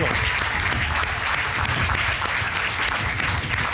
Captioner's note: applause